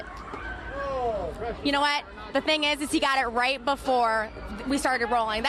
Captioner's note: cheering